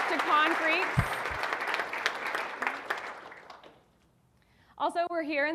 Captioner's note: audience applauding